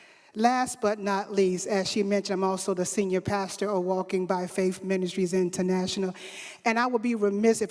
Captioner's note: none